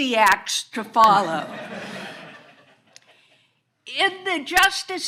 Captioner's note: all laughing